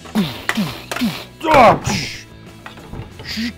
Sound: grunting

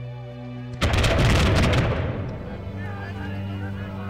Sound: dramatic music; loud gunshots; men shouting, gunshots continue

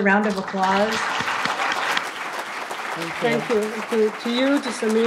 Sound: audience applauds

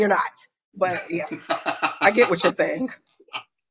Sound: laughs

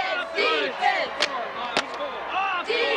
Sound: cheerleaders clapping

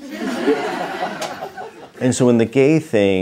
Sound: audience laughter

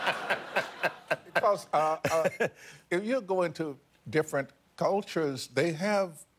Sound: laughter

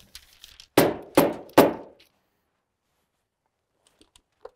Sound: hammer pounding

